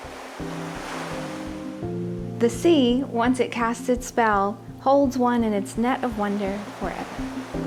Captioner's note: waves Crashing